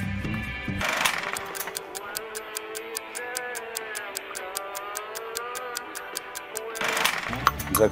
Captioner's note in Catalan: tic-tac